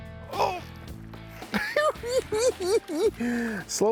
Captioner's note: cackling